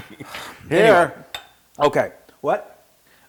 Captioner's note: laugh